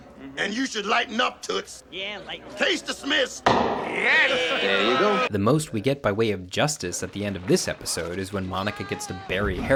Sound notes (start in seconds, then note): 3.7 group agreeing